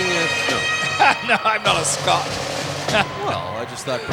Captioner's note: chuckling